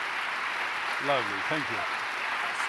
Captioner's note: applause